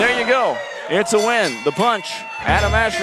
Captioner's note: bell rings